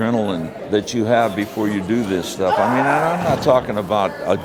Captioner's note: person screaming and hitting mat